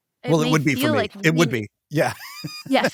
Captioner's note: laughs